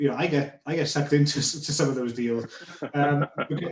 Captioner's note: laughing